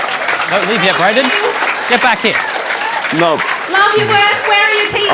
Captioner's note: cheering and applause